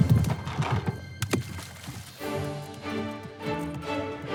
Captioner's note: lively orchestral music continues; pole splashes; intense orchestral music